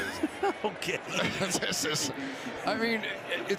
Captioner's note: laughs